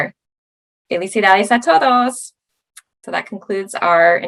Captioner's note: speaking Spanish